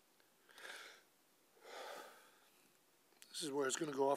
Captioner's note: soft deep breath